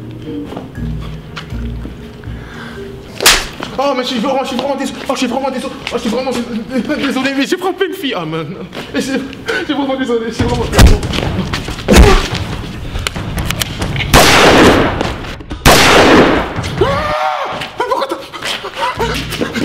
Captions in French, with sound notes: Je suis vraiment désolé, mais j'ai frapper une fille ! Je suis vraiment désolé. *Bruit de coup de feux* *Bruit de coup de feux* Ahhhh ! Mais pourquoi t'as ...